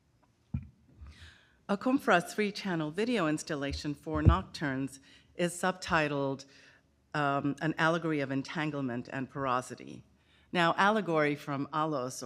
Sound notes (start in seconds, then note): none